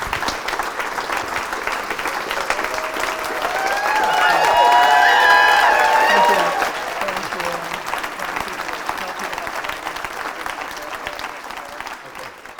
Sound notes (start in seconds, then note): 2.8 applause